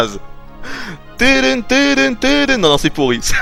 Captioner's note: laughs; hums again